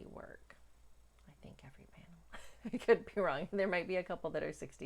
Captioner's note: whispers; giggles